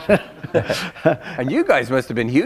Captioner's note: laughter